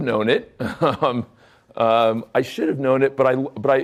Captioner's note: chuckling